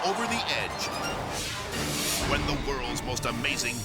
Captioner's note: graphic swishes